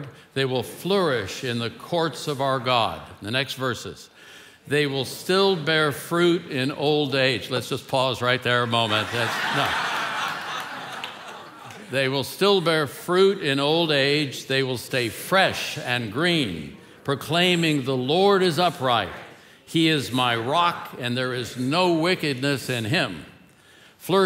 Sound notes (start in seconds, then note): 8.8 congregation laughing